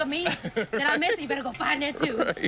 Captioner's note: laughs